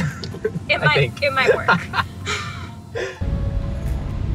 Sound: laughing; store music playing

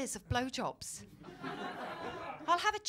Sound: laughter

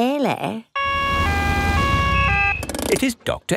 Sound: siren wails

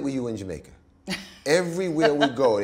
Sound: laughs

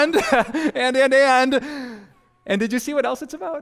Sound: pastor: Laughter

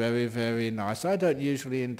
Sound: none

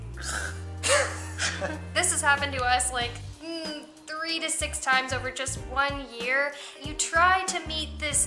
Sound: laughter

